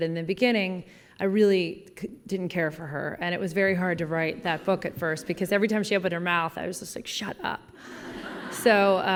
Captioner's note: laughing